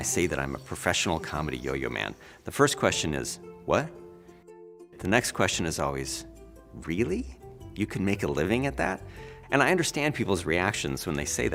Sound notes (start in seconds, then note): none